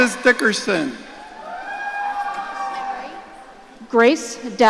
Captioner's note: audience cheering